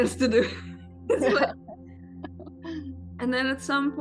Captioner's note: laughs